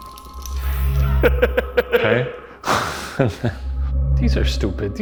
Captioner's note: laughs